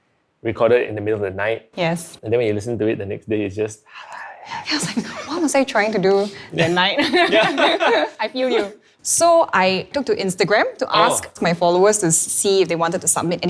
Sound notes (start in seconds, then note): 3.9 whispering gibberish; 6.4 both laugh